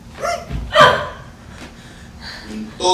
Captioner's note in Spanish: Gruñidos